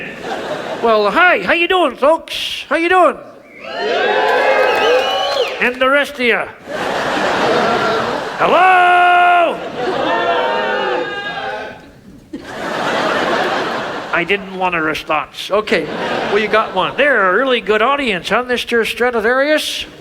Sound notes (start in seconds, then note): 0.0 audience laughing; 3.4 audience cheering; 6.7 audience laughs; 12.4 audience laughs